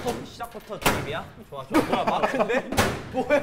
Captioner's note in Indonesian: ????Hahahahahahaha